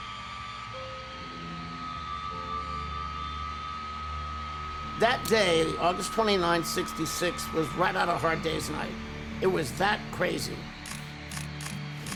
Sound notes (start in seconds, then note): 2.8 cheers; 2.8 sharp music